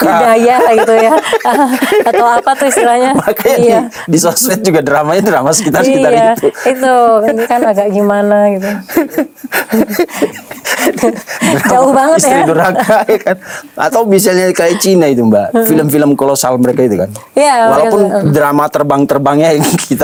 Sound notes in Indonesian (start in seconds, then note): 0.0 tertawa; 9.2 tertawa